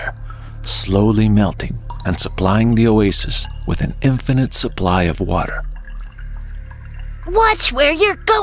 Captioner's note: water drops